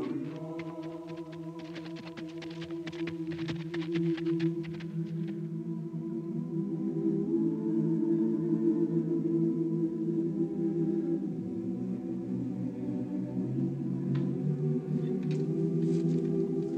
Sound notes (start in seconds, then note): 2.4 hooves clomping; 2.4 people humming